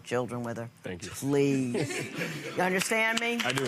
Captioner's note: laughing